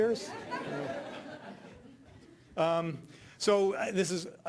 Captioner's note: audience laughing